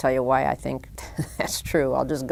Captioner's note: chuckle